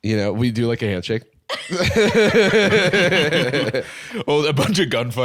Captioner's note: all laughing